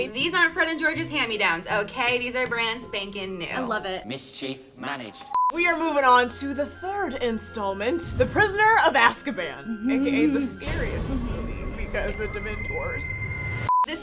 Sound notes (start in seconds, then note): 5.2 beep; 10.8 air whooshing; 12.1 beep